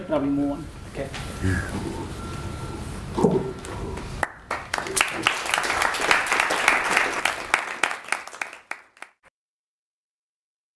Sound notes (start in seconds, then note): 4.2 applause